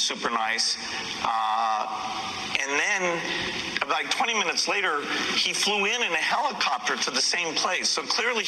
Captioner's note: none